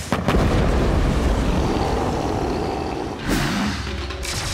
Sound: growling

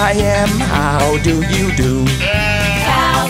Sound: sheep bleating

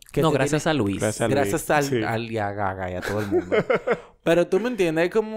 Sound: laughs

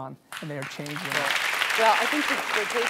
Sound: applauding

